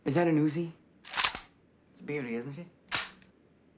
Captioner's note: gun clicks